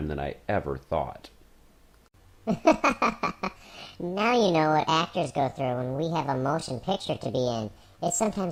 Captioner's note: laughing